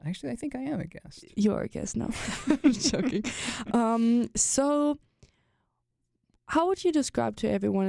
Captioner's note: both laugh